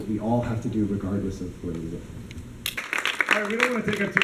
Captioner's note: applause